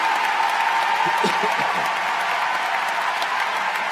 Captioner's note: cheers & Applause